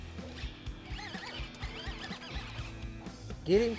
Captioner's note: reel whirs